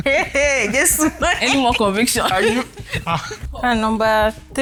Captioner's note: laughs